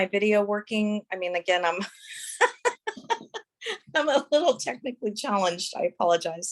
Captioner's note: laughs